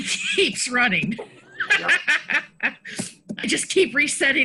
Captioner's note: laughing